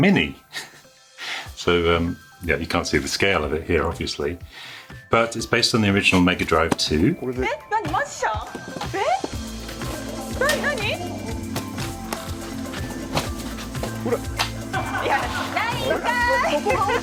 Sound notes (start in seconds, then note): 7.7 speaking Japanese